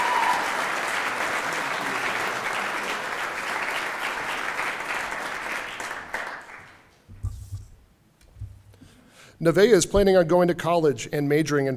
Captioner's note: cheering; applause